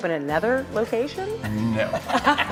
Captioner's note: laughter